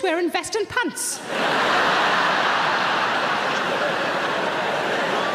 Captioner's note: audience laughs